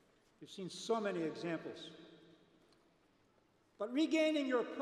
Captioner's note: none